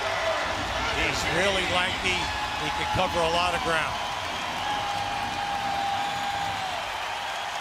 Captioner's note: cheers and applause